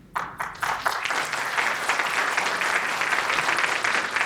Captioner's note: applause